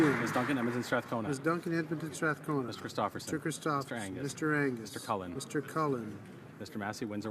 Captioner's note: some applause